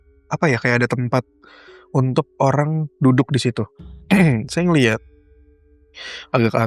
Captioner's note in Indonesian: berdehem